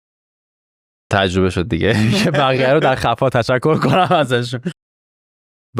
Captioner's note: laughs